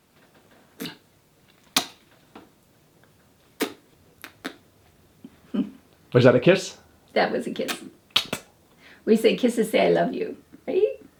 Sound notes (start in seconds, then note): 5.6 mother laughing